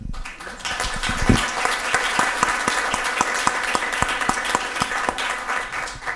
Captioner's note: audience applause can be heard